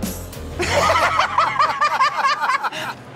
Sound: laughter

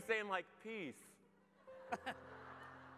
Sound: audience laughs

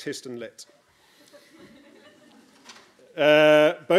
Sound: laughter

